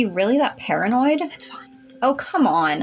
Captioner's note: whispering